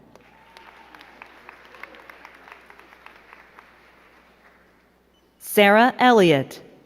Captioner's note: crowd cheering and clapping